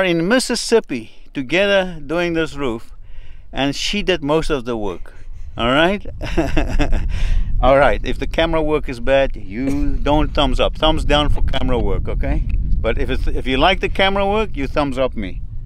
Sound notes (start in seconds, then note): 5.6 laughs